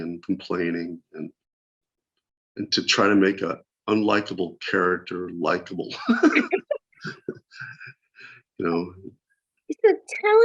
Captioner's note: laughter